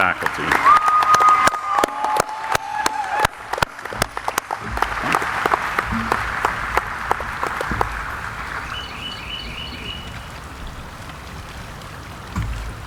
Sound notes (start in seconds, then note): 0.7 audience applauding